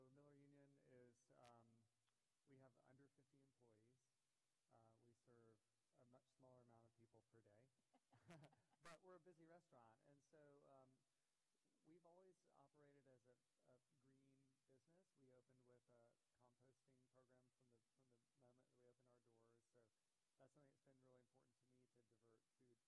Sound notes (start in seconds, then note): 4.5 laughter